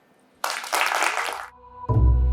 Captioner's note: applause